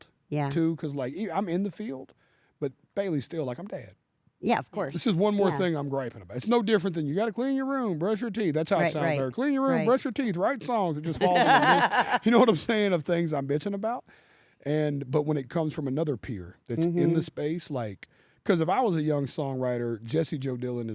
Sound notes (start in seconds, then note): 11.1 laugh